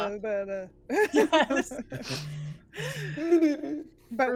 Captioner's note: everyone laughs